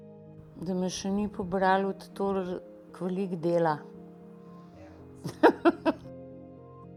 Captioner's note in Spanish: risas